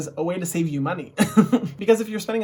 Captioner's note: chuckles